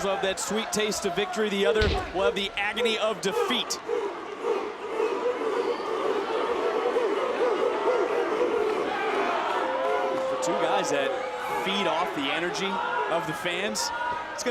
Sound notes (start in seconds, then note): 4.1 crowd barking